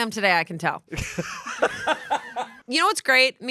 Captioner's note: everyone laughs